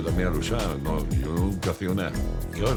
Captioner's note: non-english speech; speaking spanish